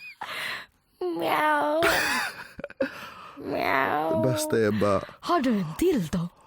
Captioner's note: meow